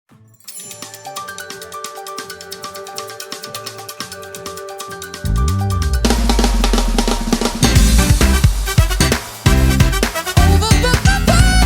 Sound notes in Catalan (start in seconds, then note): 0.4 to de trucada